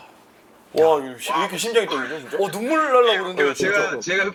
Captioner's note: sobbing